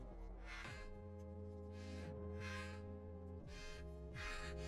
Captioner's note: breathing heavily